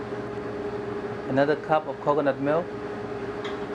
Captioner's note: voiceover